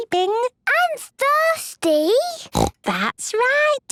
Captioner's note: snorts